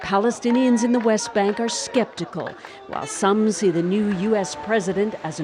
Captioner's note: applause